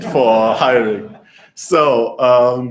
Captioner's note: laughter